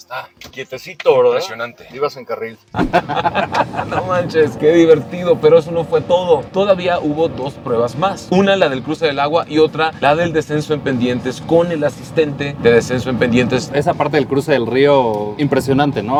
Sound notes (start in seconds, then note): 2.7 laughing